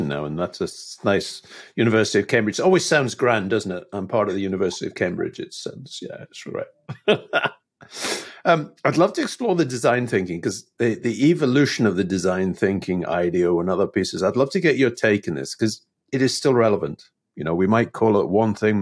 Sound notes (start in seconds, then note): 6.9 laughing